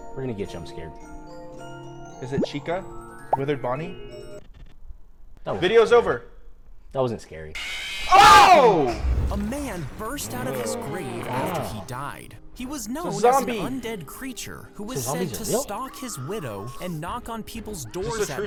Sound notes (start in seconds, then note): 7.5 bear screaming